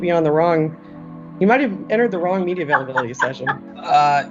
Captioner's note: laughs